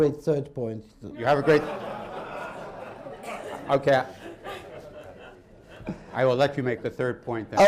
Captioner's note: laughter